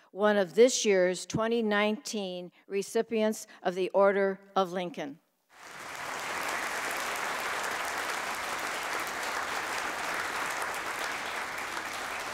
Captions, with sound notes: one of this years 2019 recipients of the Order of Lincoln. (audience applauding)